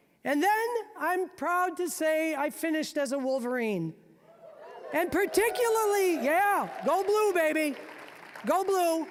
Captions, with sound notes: And then, I'm proud to say I finished as a Wolverine. And particularly-- (audience cheering) yeah, go blue, baby, go blue!